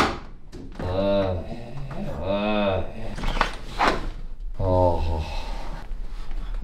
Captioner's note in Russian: стоны